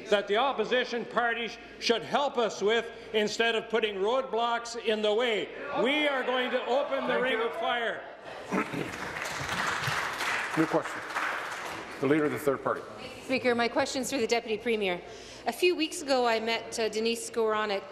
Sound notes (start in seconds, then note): 12.4 applause